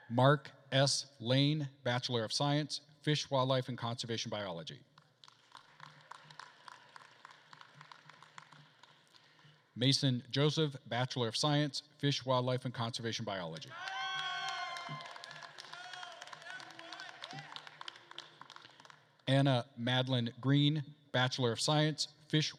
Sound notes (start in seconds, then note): 5.0 attendees applauding; 13.7 attendees cheering and applauding